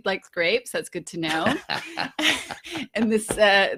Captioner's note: laughing